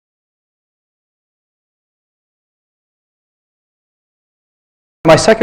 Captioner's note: silence